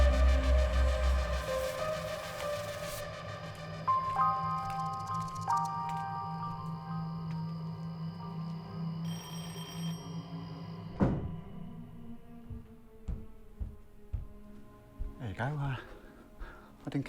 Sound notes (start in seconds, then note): 0.0 dramatic music; 3.6 insects chirping; 6.0 dramatic music; 9.0 door bell ringing